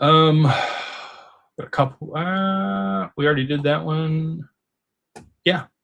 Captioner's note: sighs